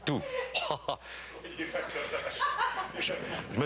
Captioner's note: rires